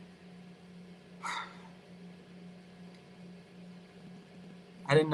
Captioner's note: Liam sighs